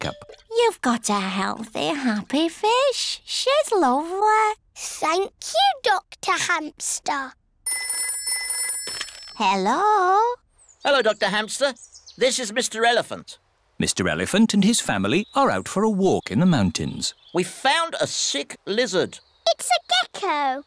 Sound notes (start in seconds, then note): 7.6 phone rings